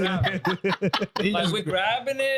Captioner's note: laughing